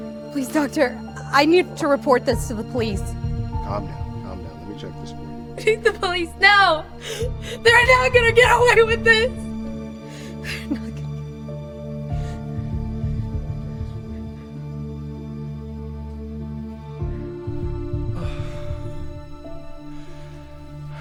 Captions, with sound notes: Please, doctor. I need to report this to the police. - Calm down, calm down, lemme check this for you. - I need the police now! (sobs) They're not gonna get away with this! They're not gonna get away with this. (pants) - I'll check this for you. (Patrick grunts)